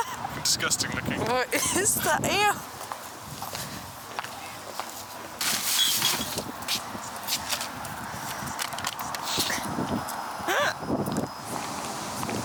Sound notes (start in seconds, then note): 2.9 bag rustling, city background noise; 10.5 laughs